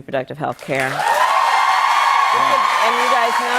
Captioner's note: cheers and applause